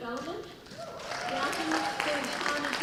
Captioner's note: applause